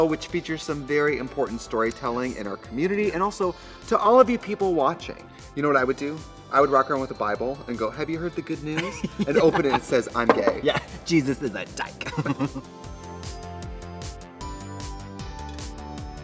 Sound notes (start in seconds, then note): 8.7 Katya laughs; 12.5 Katya giggles; 13.3 upbeat music